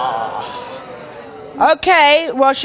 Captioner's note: audience boos